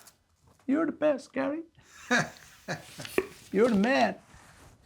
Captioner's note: laughing